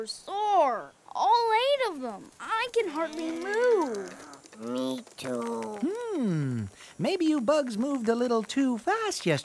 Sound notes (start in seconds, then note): 4.5 huffing, puffing